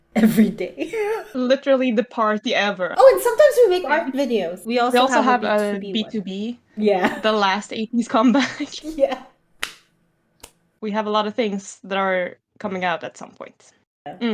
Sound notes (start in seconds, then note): 9.5 lols and claps